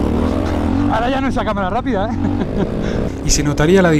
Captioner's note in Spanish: risas